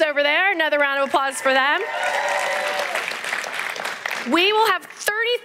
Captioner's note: applause